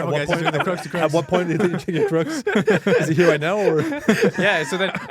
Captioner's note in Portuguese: risos